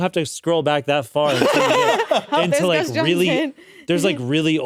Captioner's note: laughing